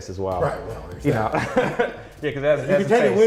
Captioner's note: laughs